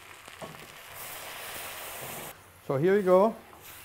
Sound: liquid steaming

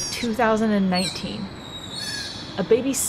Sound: sea otter pup vocalizations

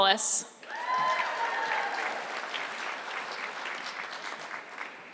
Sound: audience clapping

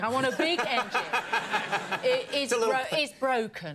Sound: Conan and the audience laugh

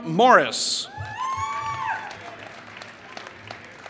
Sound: applause

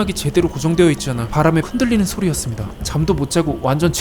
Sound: it was the sound of the tent blowing in the wind

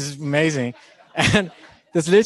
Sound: laughing

